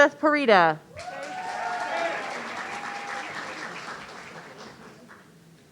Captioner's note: audience cheering